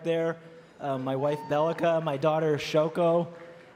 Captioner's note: cheering and Applause